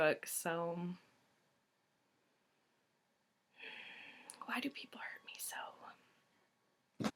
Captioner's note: sigh